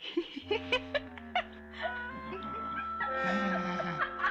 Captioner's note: laughing; grumbles; mocking